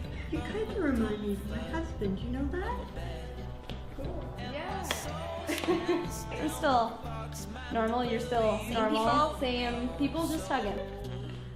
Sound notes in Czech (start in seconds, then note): 4.8 plácnutí rukou